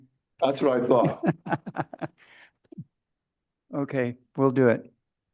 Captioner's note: laughs